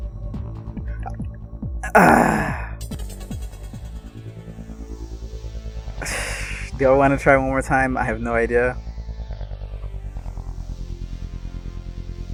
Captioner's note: sigh